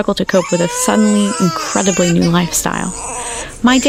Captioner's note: babies crying